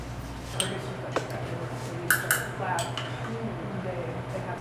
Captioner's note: low murmured chatter